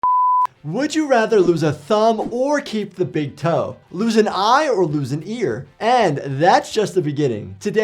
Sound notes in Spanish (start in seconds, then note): 0.0 pitido de pantalla